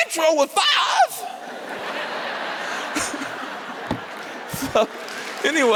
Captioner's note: laughter